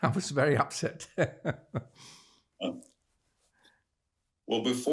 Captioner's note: laughing